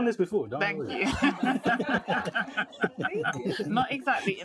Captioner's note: group laughing